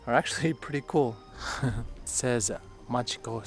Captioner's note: chuckle